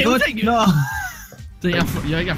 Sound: laughter

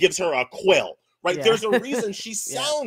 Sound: laughs

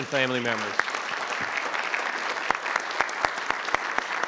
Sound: crowd clapping

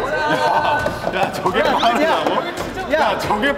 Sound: stumbling

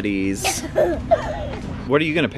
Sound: laughing

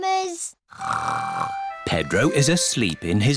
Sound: snores

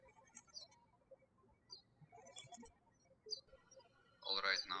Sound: birds chirping

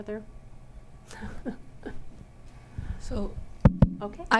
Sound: laughing

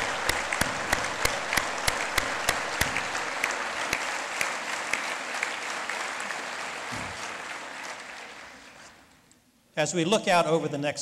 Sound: lead Applause

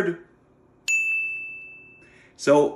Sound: bell chimes

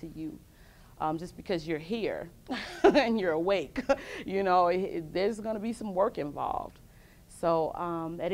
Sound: laughs

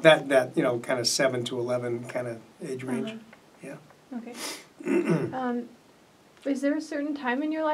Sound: sniffs and clears throat

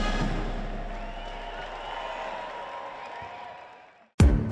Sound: crowd cheering; dramatic music

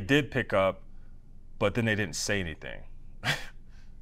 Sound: laugh

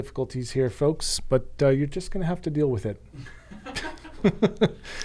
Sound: laughing

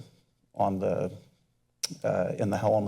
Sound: smacks lips

